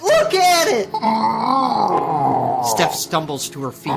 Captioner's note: Lumber Axe groaning